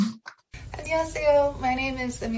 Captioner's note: speaking Korean